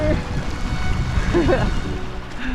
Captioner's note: chuckles